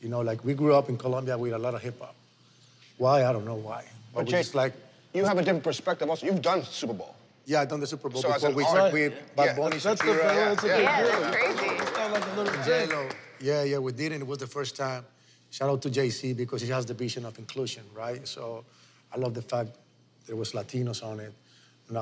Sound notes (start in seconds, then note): 9.6 applause